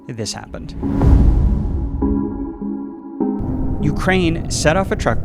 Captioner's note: explosion booming